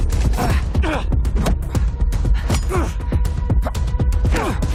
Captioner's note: grunting